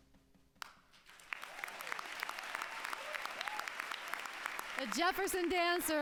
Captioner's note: applause